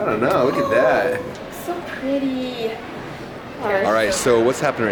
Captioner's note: gasps